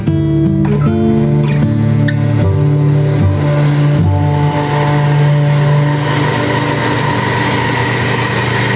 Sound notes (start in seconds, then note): 4.9 machinery whirring